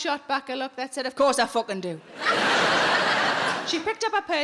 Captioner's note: audience laughing